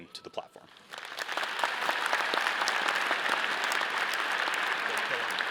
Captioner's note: all applauding